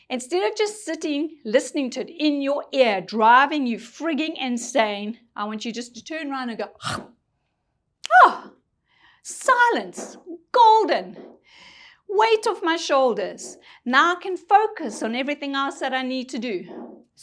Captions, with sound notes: Instead of just sitting, listening to it in your ear, driving you frigging insane, I want you just to turn around and go (imitates frog crunching). Ah, silence, golden. Weight off my shoulders. Now I can focus on everything else that I need to do.